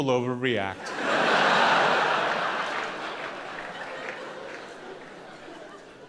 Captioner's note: audience laughing and applauding